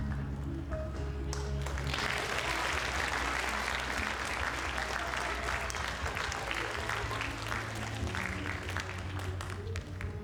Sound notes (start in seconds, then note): 1.3 audience applauds